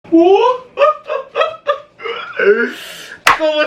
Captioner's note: odd laughter